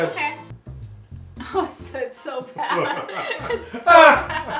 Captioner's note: both laughing